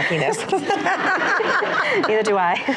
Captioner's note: laughs